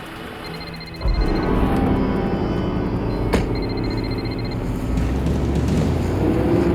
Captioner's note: dramatic music; phone ringing